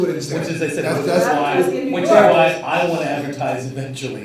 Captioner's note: all chattering